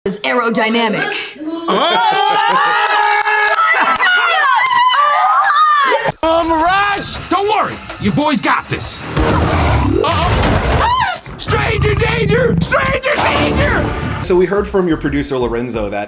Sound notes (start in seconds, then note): 1.5 laughter; 9.2 growl